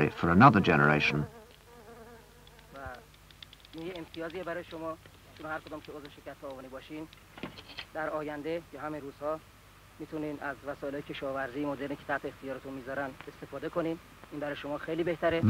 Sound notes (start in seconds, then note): 7.7 clicking